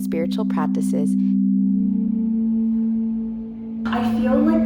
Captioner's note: tones